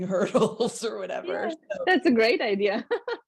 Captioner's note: laughs